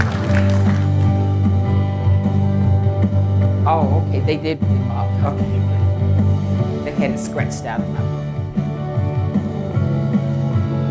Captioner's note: applause